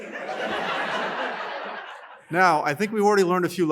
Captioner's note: laughter